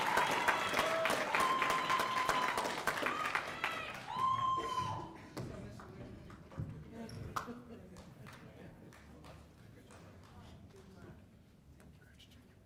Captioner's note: applause